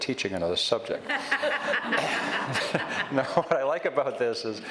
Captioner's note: audience laughs